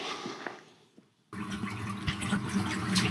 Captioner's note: water splashing